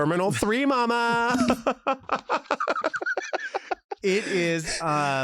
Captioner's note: laughs